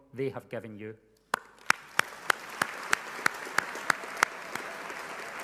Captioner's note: people applauding loudly